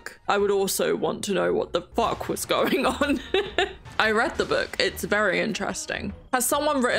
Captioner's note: laughs